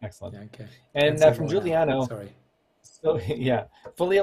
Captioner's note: speaking faintly